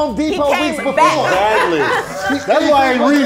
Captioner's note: laughing